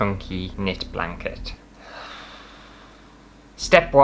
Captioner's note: sigh